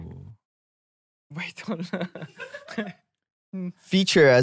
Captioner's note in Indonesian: tertawa